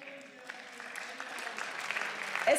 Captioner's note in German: Beifall